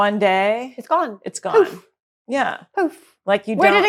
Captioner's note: poof